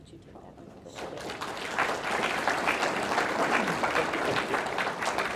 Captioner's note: audience clapping